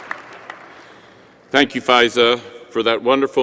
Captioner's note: applause